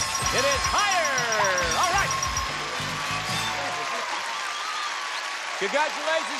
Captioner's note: applause and cheers; exclaims